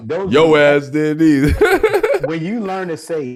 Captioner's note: laughing